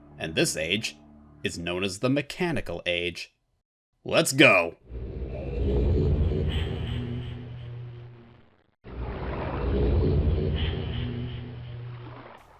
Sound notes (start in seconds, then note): 5.0 age transition sound; 8.9 age transition sound... again